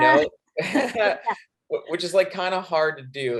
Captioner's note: both laughing